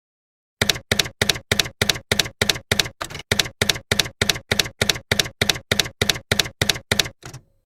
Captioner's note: typewriter keys clacking